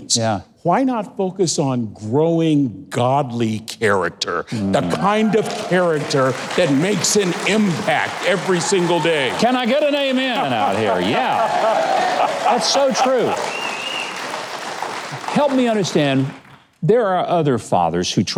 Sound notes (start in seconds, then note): 3.6 crowd applauds; 9.5 crowd applauds; 11.0 laughing